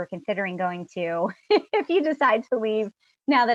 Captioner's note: laughs